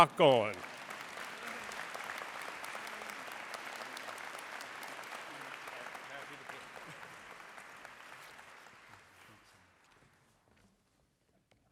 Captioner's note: applause